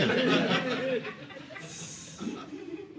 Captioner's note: audience laughing